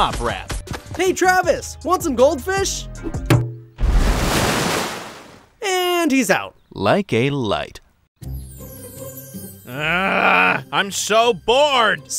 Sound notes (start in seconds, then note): 1.4 upbeat rap music; 3.2 trophy thumping; 3.7 water splashing; 8.2 upbeat calm music